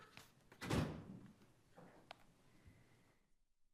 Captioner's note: door thuds